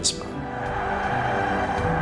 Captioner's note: crowd cheering